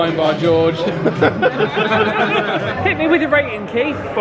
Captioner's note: all laughing